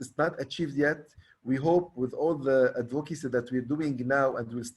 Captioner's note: stammers